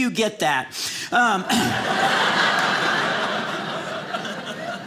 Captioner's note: audience laughing